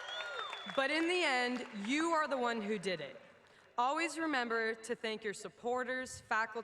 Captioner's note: cheers and applause